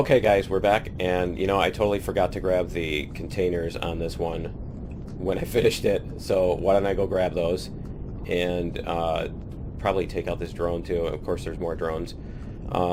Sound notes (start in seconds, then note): 6.3 laughs